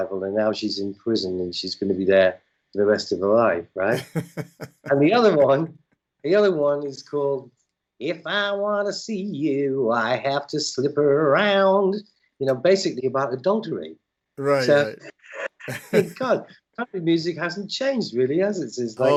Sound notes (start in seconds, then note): 3.9 laughter